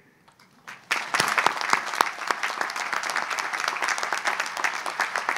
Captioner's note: audience applauds